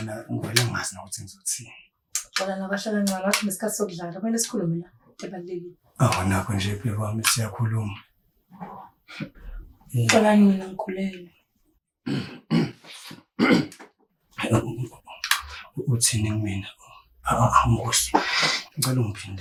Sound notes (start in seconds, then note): 12.0 clearing the throat